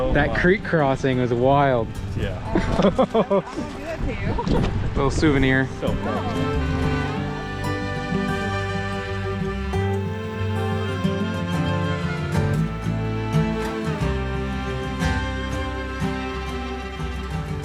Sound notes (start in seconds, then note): 2.5 laughing; 6.6 upbeat music; 13.3 upbeat music